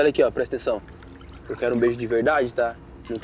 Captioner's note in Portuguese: som de líquido